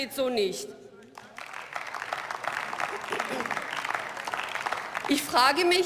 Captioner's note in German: Beifall